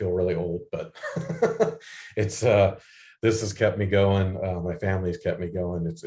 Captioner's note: laughs